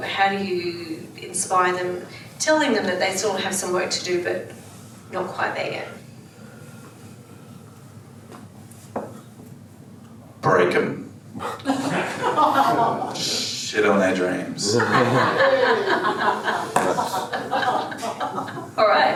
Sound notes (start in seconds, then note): 11.6 audience laughs; 14.6 audience laughs